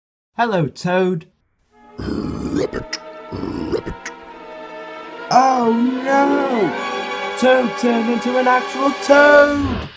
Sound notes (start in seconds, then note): 3.3 toad Sound